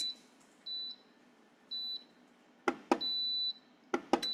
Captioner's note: mixer beeps